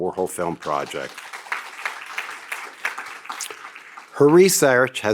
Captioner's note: audience applauds